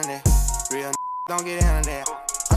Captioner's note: beep